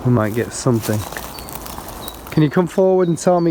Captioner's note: leaves rustling; birds chirping